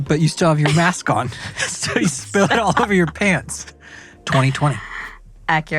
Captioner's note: laughs